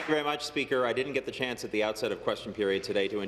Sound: applause

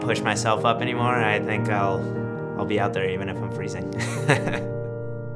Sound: laughs

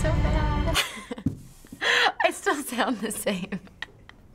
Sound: laughing; laughs

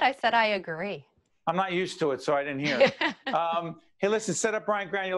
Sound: laughing

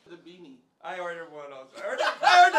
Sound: players laughing

